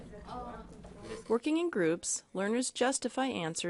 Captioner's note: voiceover